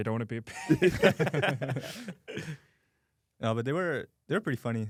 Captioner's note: laughs